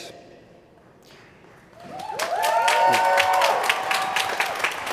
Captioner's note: applause